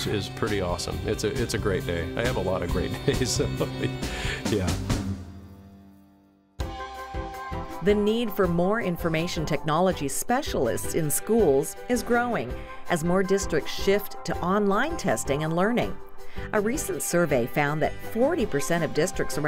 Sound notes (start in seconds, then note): 3.0 laughter